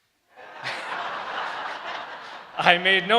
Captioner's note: crowd laughs